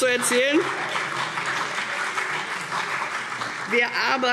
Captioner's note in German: Beifall CDU und vereinzelt BÜNDNIS 90/DIE GRÜNEN